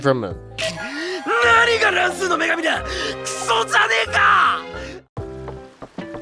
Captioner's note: angry comments about a "Random Goddess" in spoken Japanese